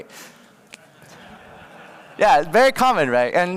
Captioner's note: laughter